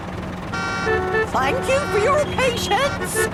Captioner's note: cars honking